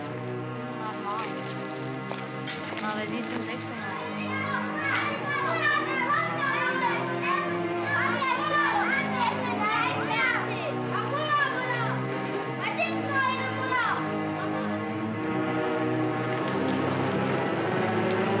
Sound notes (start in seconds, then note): 0.8 ominous sinister music; 0.8 speaking in German; 3.8 children shouting; 4.3 ominous sinister music